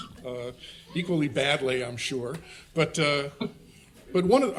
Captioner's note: people chuckling